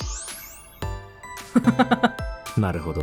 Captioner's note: chuckles